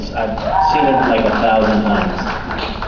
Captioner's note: cheers